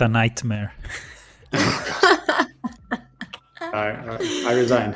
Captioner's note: laughter